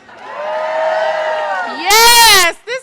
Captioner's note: audience cheers